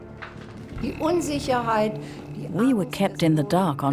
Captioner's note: speaks in foreign language